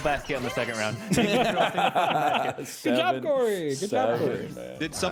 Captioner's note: laughs